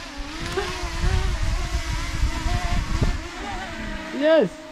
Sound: drone buzzing

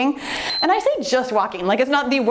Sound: timer beeps

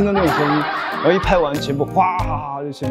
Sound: they are laughing out loud

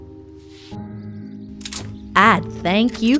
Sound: gun cocks again

